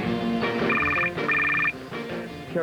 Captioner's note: telephone rings